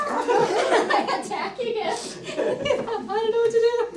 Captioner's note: laughter